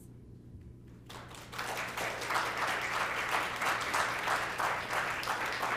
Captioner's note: applause